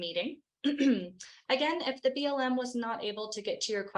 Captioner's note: clears throat